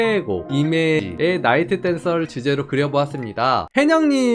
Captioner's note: voiceover